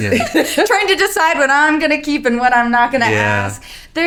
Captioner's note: laughing